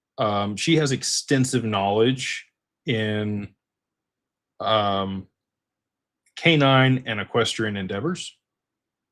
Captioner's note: clears throat